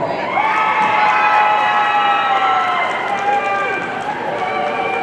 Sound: audience cheering

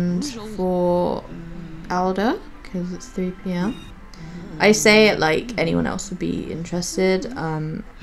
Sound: giggles

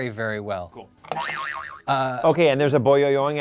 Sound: boing sound

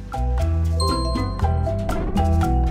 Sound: phone chimes

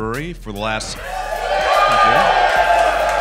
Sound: crowd cheers

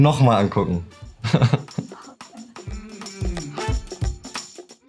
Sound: Julian laughs; interviewer chuckles; upbeat cheery music

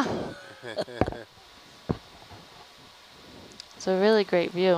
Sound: all chuckling

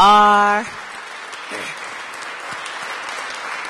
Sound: applause

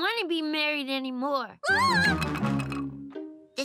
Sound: shrieking

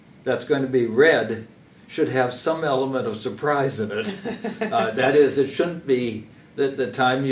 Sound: laugh

